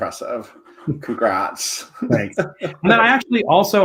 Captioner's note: chuckles; laughs